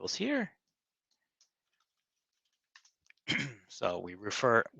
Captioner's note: clears his throat; keyboard clicking